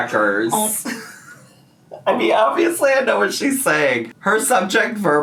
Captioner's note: laughs